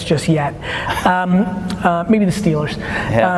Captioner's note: laughing